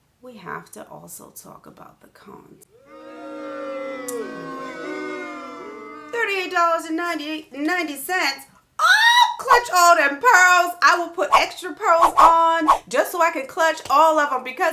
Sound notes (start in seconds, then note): 2.7 boos sounding; 6.9 screams